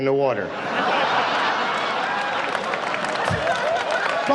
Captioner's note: audience laughs